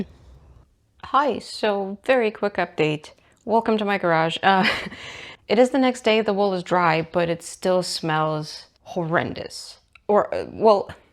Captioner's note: laughs